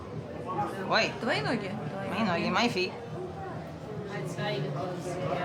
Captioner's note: speaking Russian